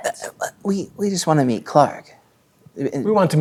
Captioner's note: stammering